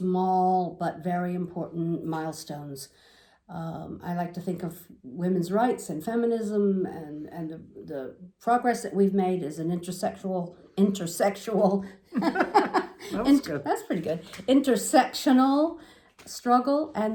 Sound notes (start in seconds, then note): 12.1 laughing